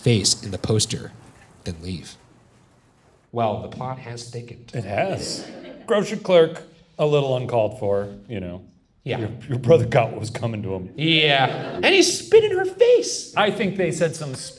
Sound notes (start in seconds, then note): 5.0 audience laughs